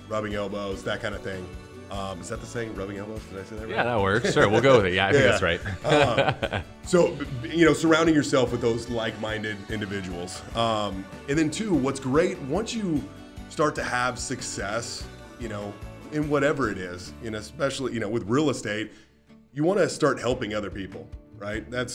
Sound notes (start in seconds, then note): 3.8 laughing